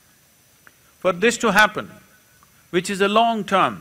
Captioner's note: none